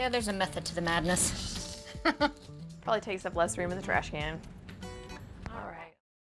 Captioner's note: chuckles